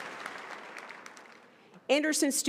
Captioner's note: applause